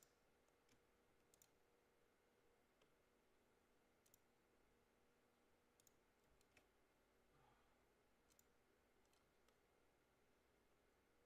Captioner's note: mouse and keyboard clicking